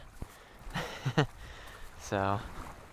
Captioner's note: laughs